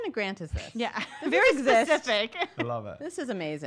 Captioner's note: chuckles